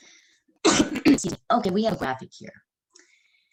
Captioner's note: clears Throat